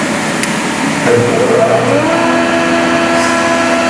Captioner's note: planer whirring